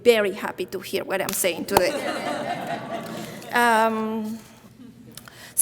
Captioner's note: audience laughing